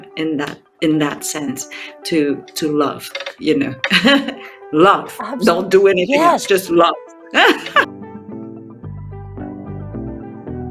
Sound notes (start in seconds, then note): 3.9 chuckling; 7.3 chuckling; 8.0 bright music